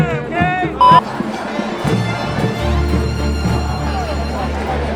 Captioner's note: crowd chattering